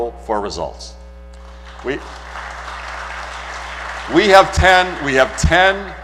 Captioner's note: applause